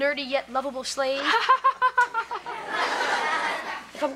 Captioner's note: Kevin laughing; audience laughter